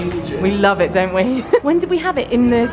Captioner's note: laughs